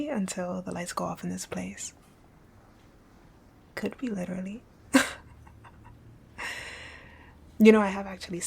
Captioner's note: laughing